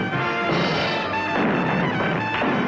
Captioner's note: dramatic music; Sporty Morty crashing; door crashing; dramatic music; walls rumbling